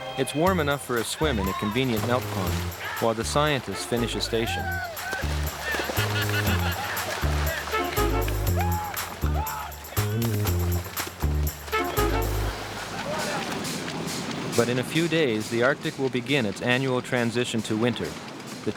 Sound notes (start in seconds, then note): 5.2 water plashing; 5.7 crew laughing